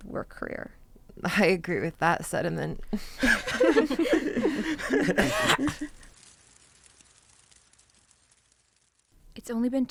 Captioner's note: everyone laughs